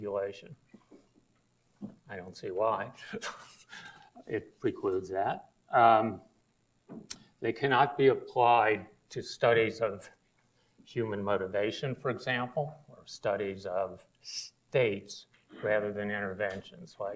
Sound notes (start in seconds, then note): 3.1 laughs